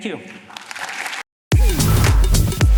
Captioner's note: applause